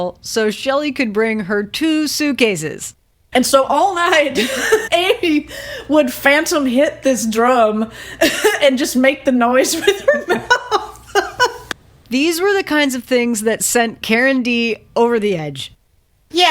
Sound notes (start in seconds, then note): 9.5 laughs